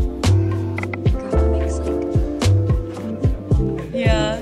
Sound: friend speaks faintly

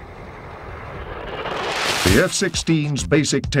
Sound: airplane engines roaring

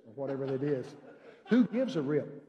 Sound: congregation laughing

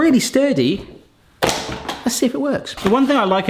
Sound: crash

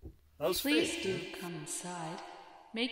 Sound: disembodied Voice

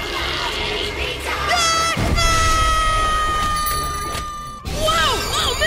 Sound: screaming

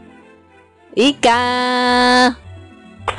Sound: excited

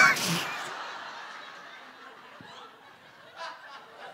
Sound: audience laughing

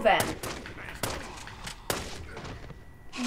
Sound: gunfire

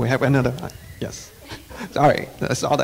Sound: laughing

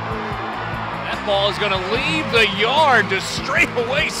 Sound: crowd cheering; voiceover

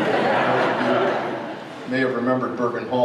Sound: crowd laughs

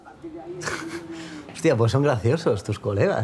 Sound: he laughs

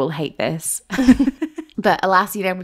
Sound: laughing

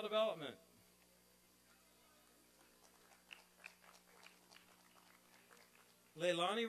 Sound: applause and cheering

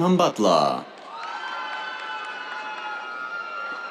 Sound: cheers, applause

